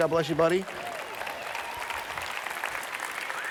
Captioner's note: applause